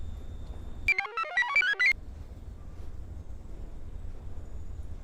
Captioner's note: computer chirps